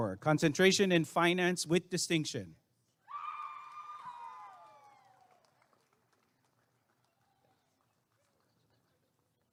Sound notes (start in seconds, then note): 3.1 applause and cheering